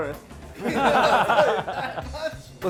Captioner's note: all laugh